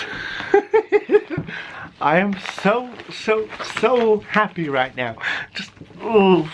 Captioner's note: laughter